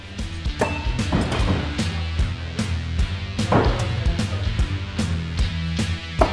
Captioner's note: upbeat rock music; card thudding